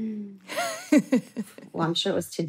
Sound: laughs

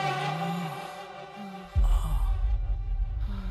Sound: sighs

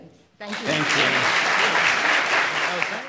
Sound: audience applauding

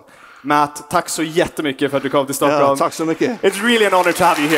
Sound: says "thank you" in Swedish

